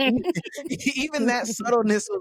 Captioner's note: laughing